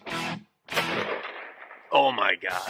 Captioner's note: gunshot